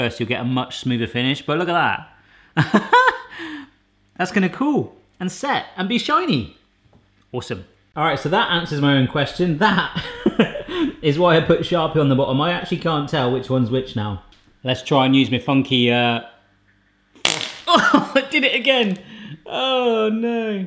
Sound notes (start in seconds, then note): 9.6 laughing; 17.2 laughing